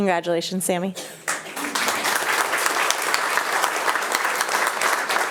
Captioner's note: attendees applauding